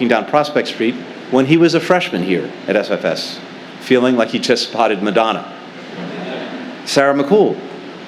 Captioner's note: laughter